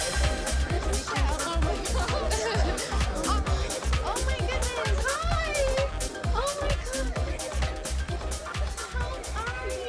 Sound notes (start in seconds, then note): 1.3 people chattering; 3.1 upbeat music